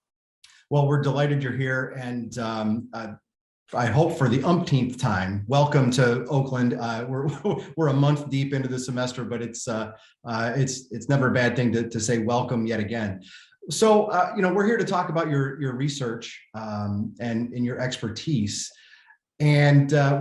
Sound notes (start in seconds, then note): 7.2 laughter